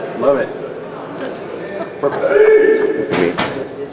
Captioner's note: camera shutter clicks